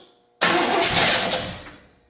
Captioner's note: engine cranks and sputters